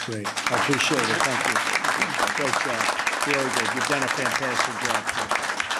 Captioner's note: applause